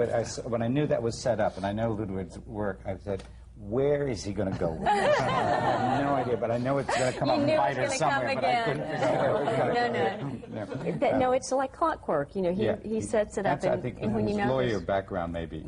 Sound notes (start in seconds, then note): 4.8 laughter